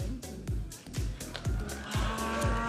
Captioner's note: audience applauding and cheering